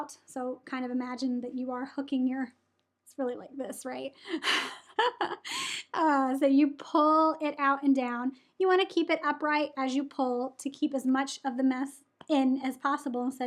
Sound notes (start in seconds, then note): 4.3 chuckles